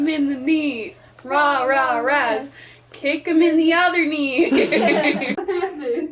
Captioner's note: laughter